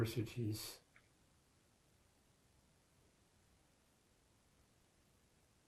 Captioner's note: pauses 6 seconds